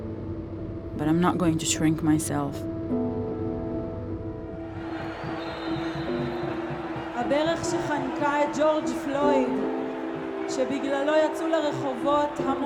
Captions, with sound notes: But I'm not going to shrink myself. [speaking in foreign language]